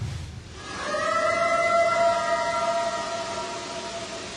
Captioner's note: eerie howl